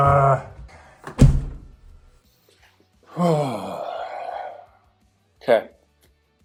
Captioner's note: sigh